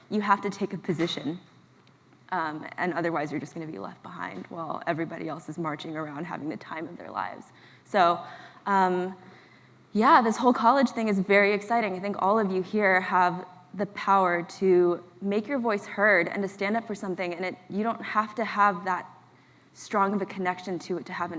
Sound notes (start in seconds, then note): none